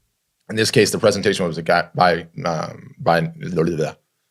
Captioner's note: grumbles